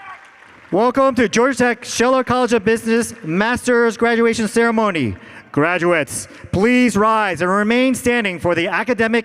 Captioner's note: applause